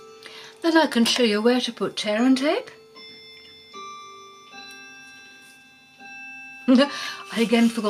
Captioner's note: clock strikes